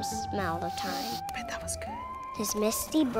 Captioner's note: sniffs